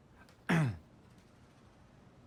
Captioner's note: clears throat